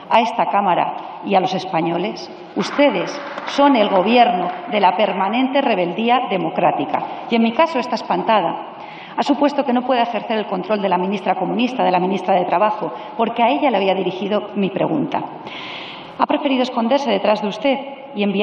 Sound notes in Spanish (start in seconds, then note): 3.0 Aplausos